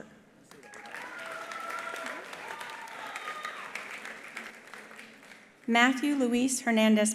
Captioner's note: attendees applauding; attendees cheering